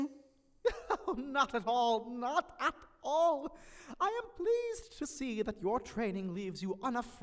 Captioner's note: laughing